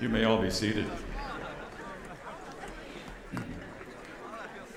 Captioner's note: attendees chattering